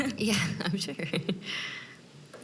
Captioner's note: chuckling